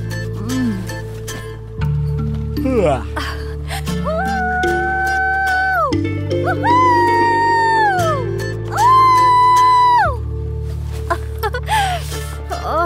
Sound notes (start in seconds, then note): 4.1 screams; 8.7 screams